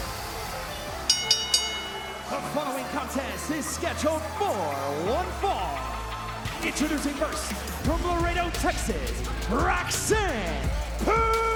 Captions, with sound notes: (bell ringing) The following contest is scheduled for one fall. Introducing first from Laredo, Texas, Roxanne Perez.